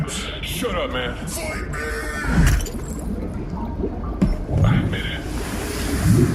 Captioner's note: screams